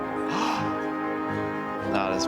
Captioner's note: bird chirping